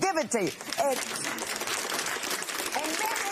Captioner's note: applause